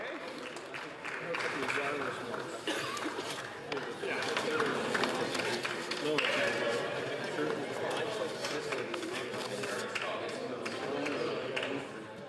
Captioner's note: some Applause